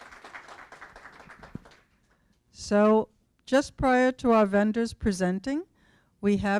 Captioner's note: applause